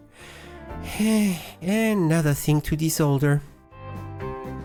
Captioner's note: sigh